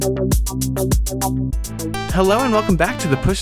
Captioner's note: none